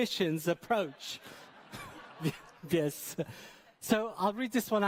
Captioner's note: audience laughing